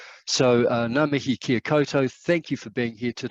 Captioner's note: speaks Maori